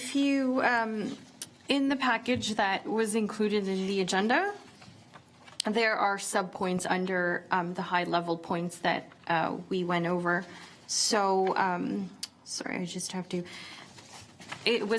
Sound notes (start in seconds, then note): none